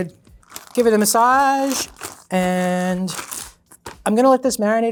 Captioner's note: baggy rustling